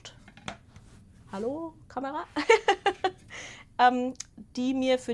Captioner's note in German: Gelächter